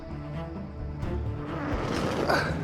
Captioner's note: grunting